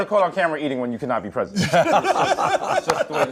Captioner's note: laughter